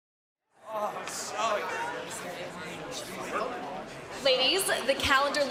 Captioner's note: background chatter